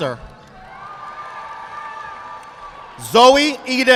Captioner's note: audience applauding